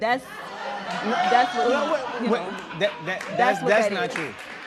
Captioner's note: spectators shouting